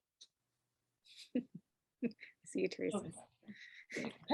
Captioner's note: chuckles